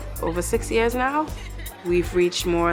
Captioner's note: laughing